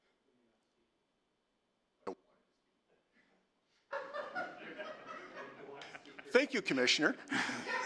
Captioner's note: laughter